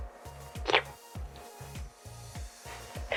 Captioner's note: sips